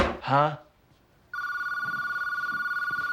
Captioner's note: telephone rings